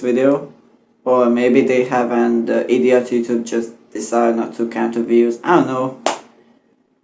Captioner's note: clap